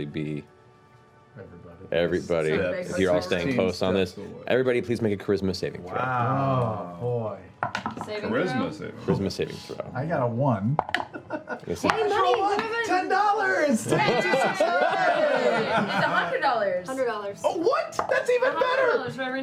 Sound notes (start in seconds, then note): 15.5 cheering